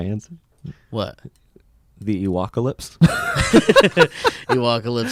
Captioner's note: laughs